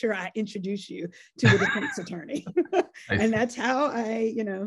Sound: laughs

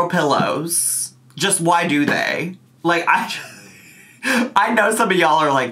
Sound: laughs

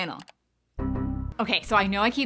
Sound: button clicking

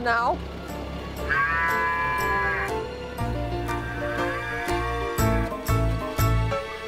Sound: playful music; cow muttering

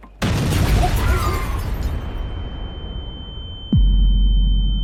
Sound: explosion sound

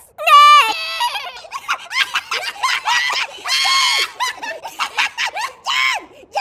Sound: soldiers make horse noises and laugh

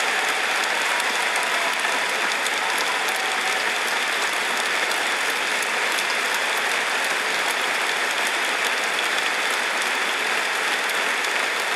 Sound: applause

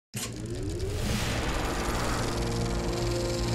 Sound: film ticking

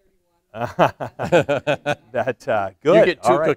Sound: laughter

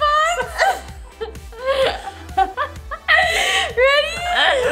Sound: laughing

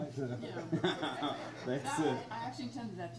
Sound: laughs

